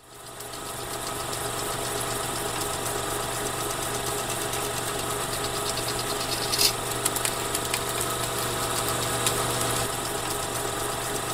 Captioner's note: sound of film reel running